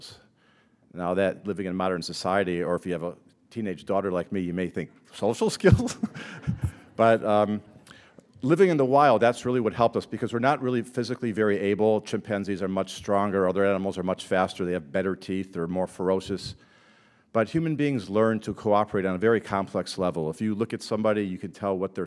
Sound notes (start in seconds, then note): 5.6 chuckle